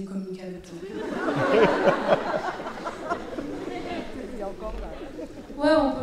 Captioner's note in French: rires